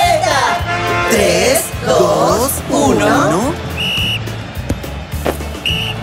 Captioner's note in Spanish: Sonido de silbato